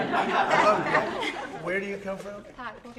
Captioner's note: laughter